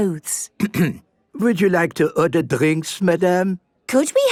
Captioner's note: clears throat